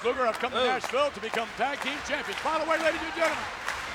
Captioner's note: audience clapping